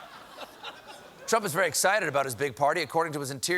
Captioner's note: laughter